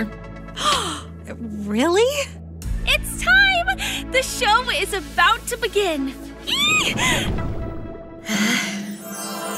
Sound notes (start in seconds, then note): 0.2 Shellnelle gasps; 6.5 squeals